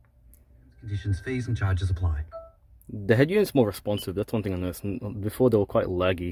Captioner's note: radio playing